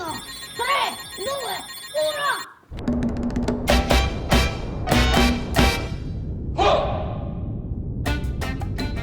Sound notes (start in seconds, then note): 2.2 spacecraft engines activating; 3.5 music playing